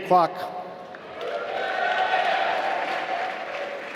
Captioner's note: applause